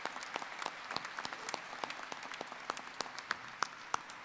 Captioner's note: applause